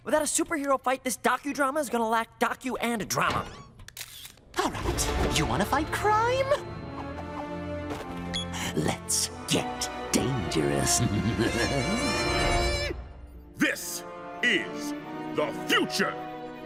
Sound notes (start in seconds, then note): 3.9 camera shutters click; 11.0 titters; 11.4 cackles